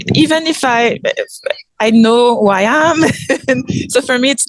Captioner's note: laughs